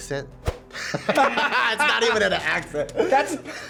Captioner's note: both laugh